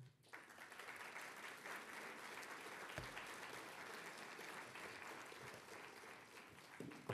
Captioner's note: applause